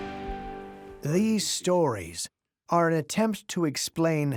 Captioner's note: music fades; in German